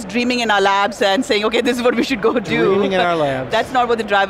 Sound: laughing

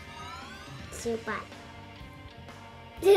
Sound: mixed in Cantonese + English

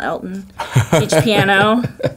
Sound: laughing

